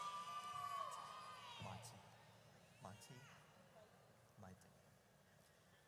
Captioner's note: audience cheers; announcers faintly speaking